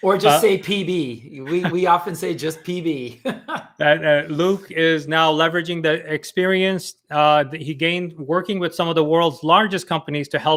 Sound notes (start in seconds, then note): 3.1 chuckles